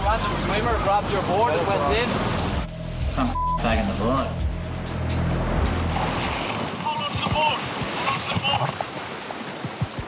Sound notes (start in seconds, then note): 5.5 waves crashing